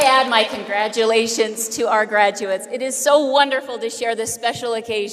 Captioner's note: applause